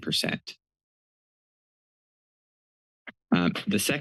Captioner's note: pause